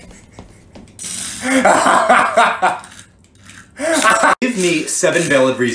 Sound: evil cackling

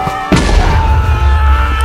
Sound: cheering; small explosion

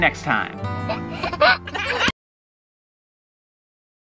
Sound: laughs

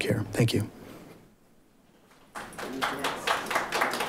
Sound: audience applauding

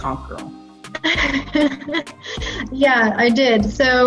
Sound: laughing

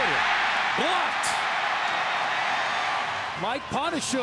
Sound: audience cheering

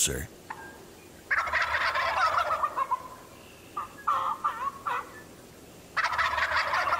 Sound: turkeys gobbling mildly; imitating gobbling

